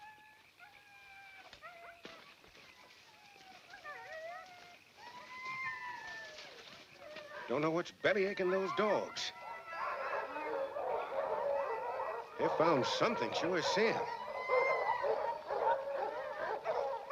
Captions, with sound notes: (dogs whining continues) (leaves rustling continues) Don't know what's bellyaching those dogs. (dogs barking) They've found something, sure as sin. (dogs barking)